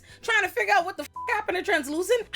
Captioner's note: beep